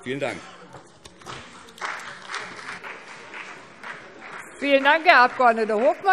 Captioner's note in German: Beifall BÜNDNIS 90/DIE GRÜNEN und vereinzelt CDU